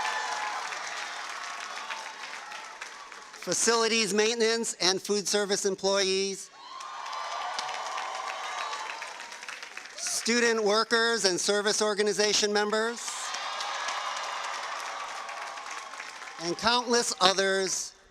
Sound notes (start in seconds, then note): 2.2 cheers and applause